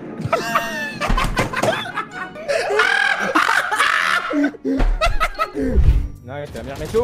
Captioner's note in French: Rires